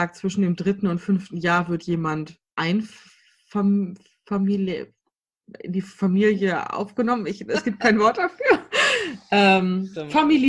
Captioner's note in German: lacht